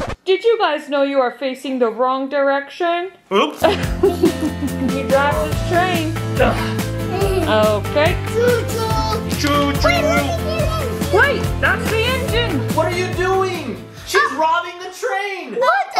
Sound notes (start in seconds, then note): 3.6 laughing